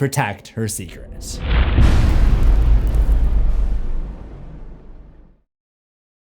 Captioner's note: impact